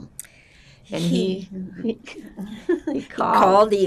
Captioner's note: laughing